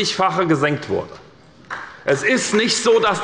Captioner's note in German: Beifall bei der SPD